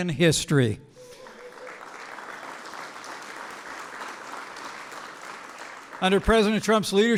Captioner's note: applause